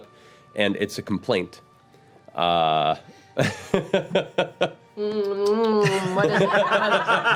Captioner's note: kissing sounds